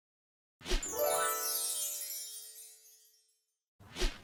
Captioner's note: magic sparkling